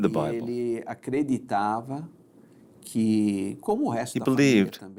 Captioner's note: Portuguese spoken audio